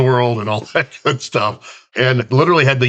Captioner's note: chuckles